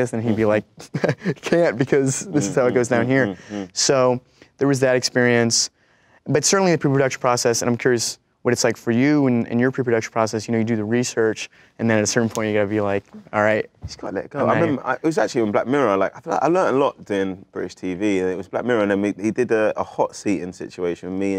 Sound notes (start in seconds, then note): 3.5 laughs